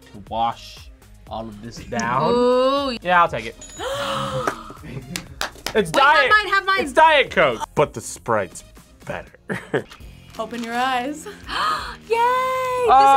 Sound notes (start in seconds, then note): 3.8 both gasp; 5.0 React claps; 9.5 laughs; 11.3 gasps